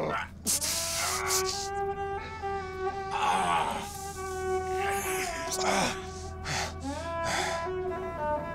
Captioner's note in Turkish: İnleme sesi